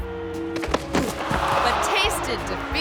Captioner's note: playful music; runner thuds